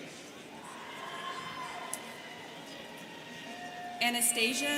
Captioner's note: students cheering